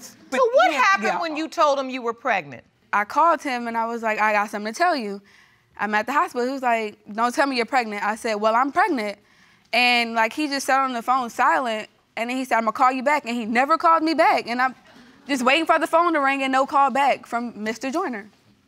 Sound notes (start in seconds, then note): none